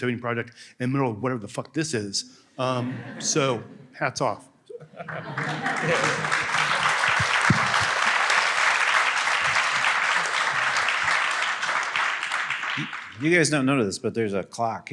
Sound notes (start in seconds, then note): 4.0 applause